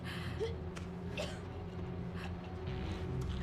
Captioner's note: coughing